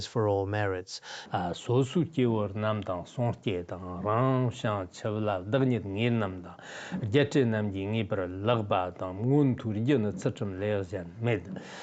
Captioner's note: giving oral transmission in Tibetan